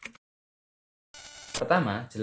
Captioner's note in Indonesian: suara mengetik; suara interferensi